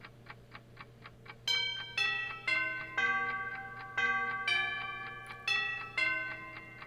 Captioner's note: striking clock